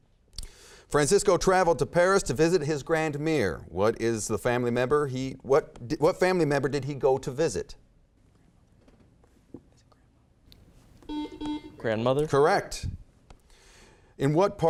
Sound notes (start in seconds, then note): 11.0 beeping